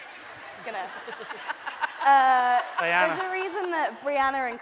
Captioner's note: laughing